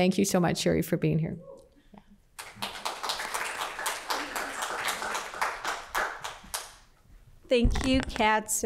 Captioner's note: applause